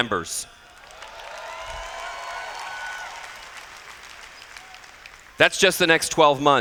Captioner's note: cheers